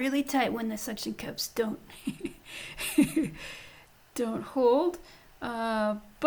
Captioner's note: laughing